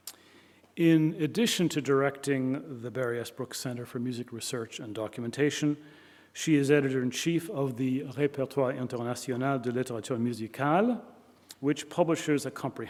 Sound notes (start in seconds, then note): none